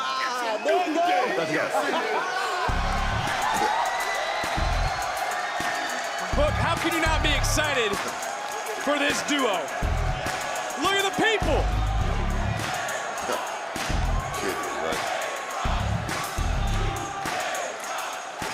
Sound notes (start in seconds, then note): 1.5 music plays; 1.6 laughs; 4.1 crowd cheers; 17.6 crowd chants "new day rocks"